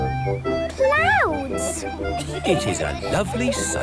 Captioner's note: laughter